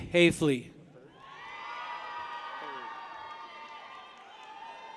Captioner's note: people cheer